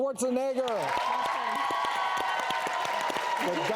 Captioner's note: applause